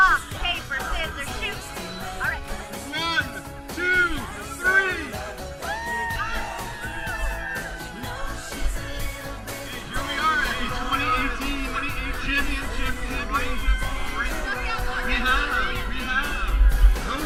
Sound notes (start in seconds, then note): 5.6 cheering